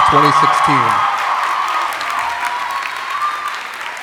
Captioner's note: applause